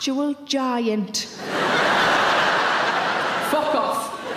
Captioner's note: audience laughing